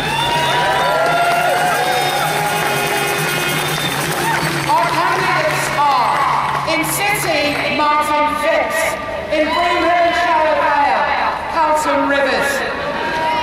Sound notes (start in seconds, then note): 0.0 loud applause